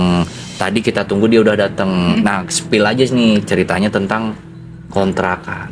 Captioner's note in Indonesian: berdehem